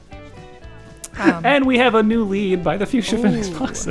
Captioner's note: struggling with laughter